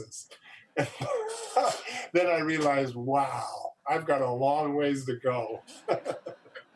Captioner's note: laughs